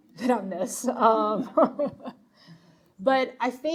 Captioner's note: laughing